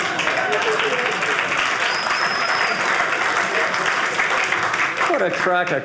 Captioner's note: audience laughing; audience cheering